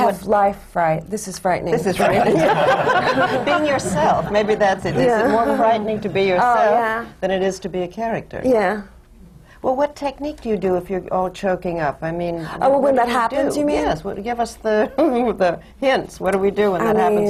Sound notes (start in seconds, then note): 2.0 laughter; 4.8 laughs nervously